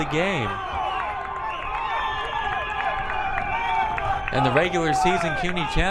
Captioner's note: crowd cheering